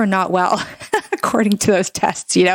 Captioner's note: laughs